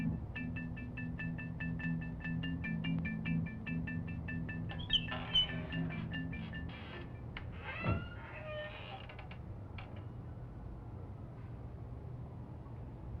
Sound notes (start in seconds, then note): 4.7 door creaks